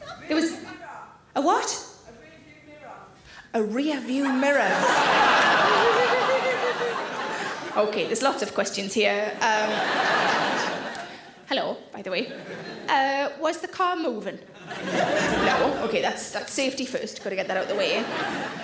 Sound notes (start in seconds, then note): 4.2 audience laughing